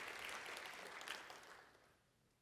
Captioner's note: applause